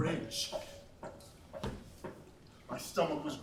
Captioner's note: footsteps pattering